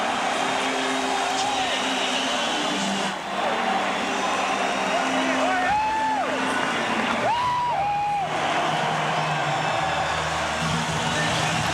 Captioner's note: cheers and applause